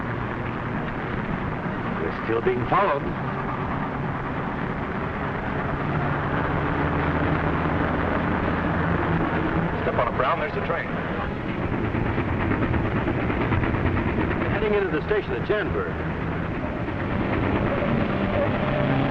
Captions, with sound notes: - We're still being followed. - Step on it, Brown, there's the train. (train chugging) - They're heading into the station at Jandberg.